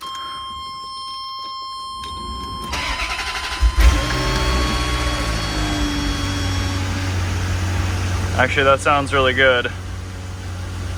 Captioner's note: engine starts